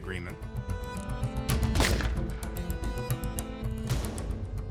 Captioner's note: gun fires